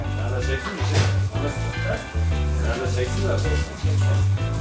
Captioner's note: indistinct chatter